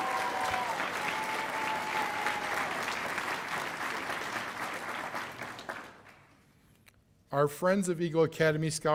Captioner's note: cheers and applause